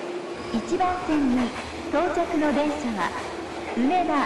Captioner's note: P.A. in Japanese